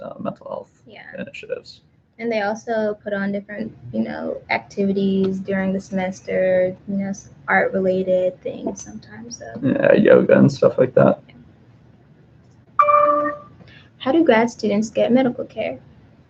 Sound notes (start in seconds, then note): 12.8 computer dings